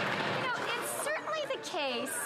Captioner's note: some Applause